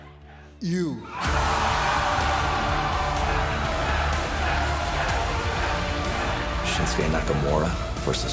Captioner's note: cheers and applause